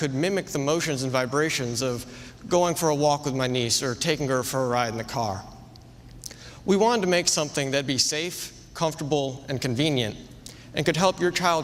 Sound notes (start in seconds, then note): none